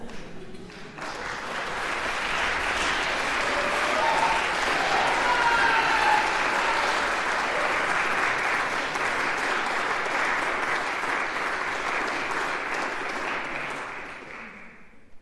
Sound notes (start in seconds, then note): 1.2 applause; 4.8 slightly concerning scream; 6.5 applause